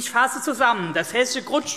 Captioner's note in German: none